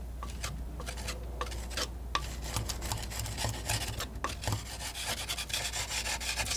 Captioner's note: scratching